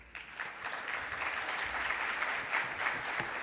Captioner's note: applause